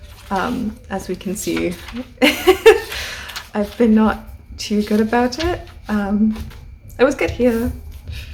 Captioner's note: laughs